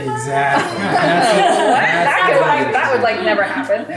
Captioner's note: laughing